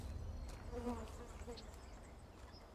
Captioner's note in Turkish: Sinek sesi